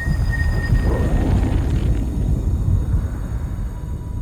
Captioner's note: thunder rumbling; static cracking